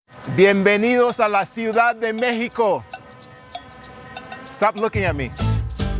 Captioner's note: person speaking in Spanish; upbeat mariachi music